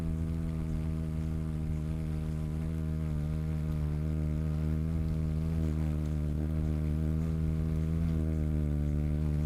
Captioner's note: birds wing flapping